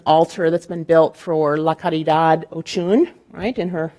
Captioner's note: speaking in Spanish